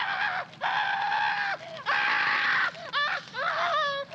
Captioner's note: screaming